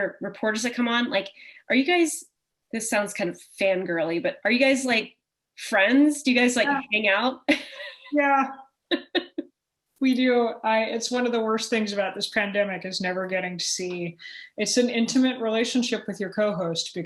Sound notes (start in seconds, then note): 7.5 chuckle; 8.9 laughter